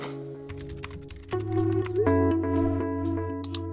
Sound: typing

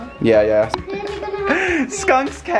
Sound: laughing

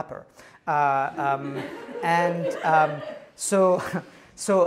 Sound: laughter

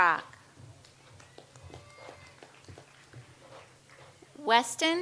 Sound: audience applauds

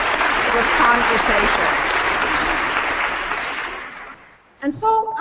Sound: applause

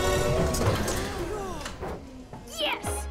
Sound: sighs of relief

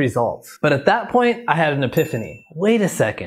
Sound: bell dings

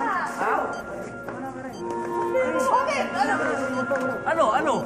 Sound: clamoring

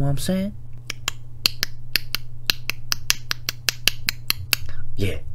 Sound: Dolphin clicks

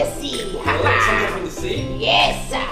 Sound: voiceover

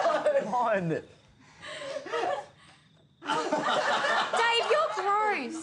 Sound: laughter

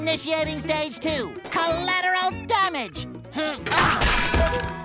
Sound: grunting

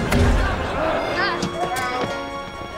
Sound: groaning

